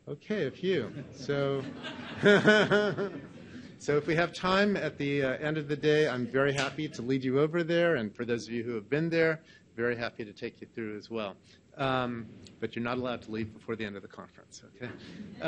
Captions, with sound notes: Okay, a few. (audience laughs) So if we have time, at the end of the day I'm very happy to lead you over there. And for those of you who have been there, very happy to take you through as well. But you're not allowed to leave before the end of the conference.